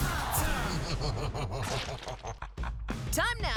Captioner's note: ominous laughter